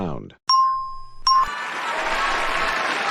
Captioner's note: ding!